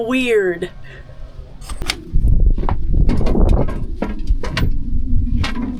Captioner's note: door opens